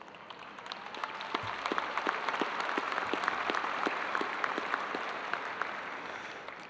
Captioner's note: audience applauding